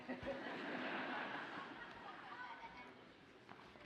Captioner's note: audience laughs